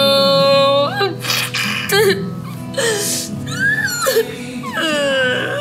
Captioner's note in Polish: płacz